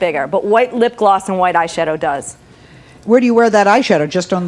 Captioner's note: none